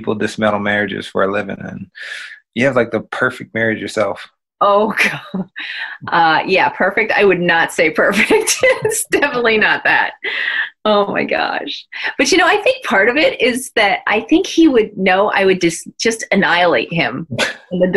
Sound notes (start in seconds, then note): 5.4 chuckling